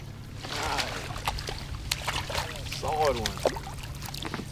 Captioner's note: fish splashing